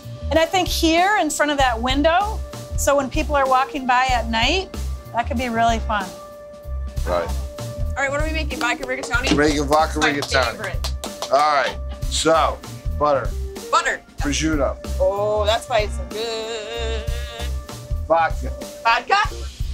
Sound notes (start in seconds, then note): 8.4 claps